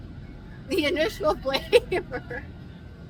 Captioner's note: laughs